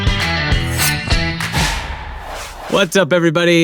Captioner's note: blade slices